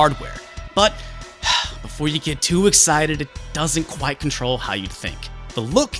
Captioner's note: sigh